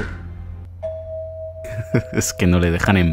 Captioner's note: bell ringing